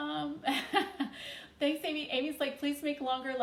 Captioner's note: chuckles